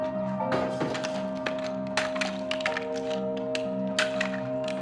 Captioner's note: wood clattering